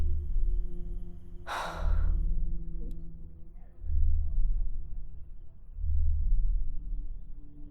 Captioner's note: heavy breathing